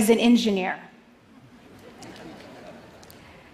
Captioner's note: laughter